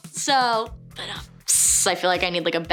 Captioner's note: imitates drums